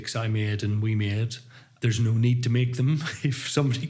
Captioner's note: laughs